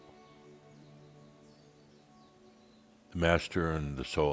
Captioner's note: longer pause